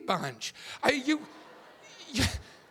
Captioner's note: audience laughing